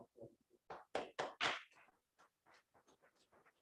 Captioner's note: clapping